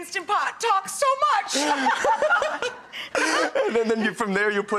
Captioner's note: laughing